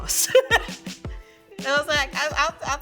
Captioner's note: laughing